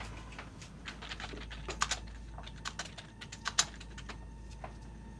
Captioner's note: keys striking; soft dramatic music